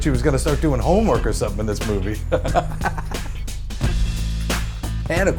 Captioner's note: laughs